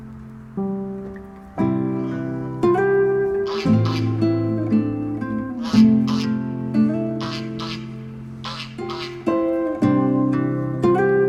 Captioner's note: goose honking